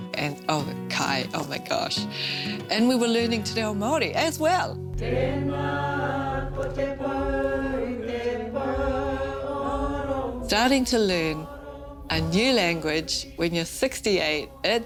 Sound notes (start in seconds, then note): 5.2 singing in te reo